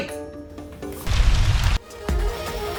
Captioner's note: earthquake sounds